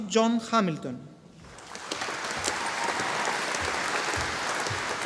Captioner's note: audience applauding